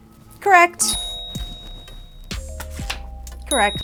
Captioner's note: bell ringing